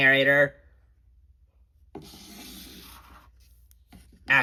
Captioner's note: silence